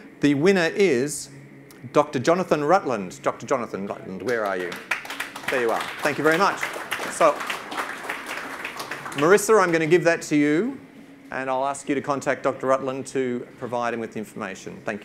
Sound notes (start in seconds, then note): 4.2 audience claps